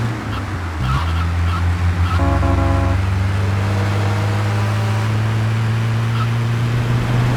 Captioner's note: tires screeching